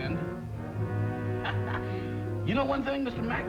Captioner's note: chuckles